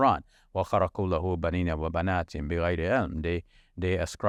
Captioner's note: speaking in foreign language